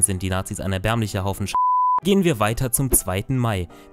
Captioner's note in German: piep